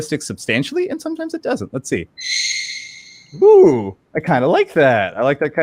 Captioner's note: quick high pitch squeak